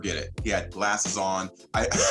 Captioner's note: laughs